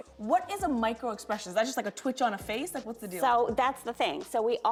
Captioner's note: none